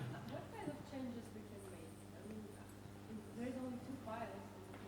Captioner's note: woman speaks softly